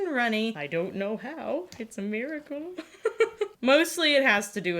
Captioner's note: laughs